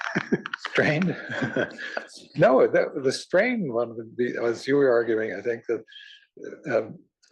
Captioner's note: laugh